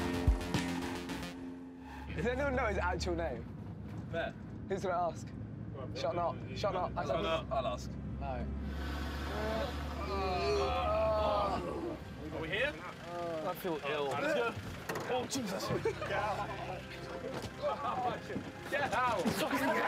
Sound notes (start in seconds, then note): 9.2 groaning